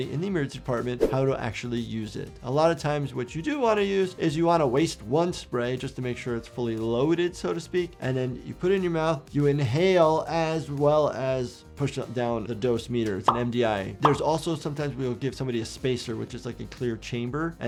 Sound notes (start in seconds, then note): 13.9 graphic popping